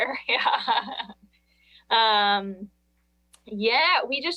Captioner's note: chuckles